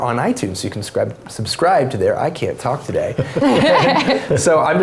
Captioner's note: laugh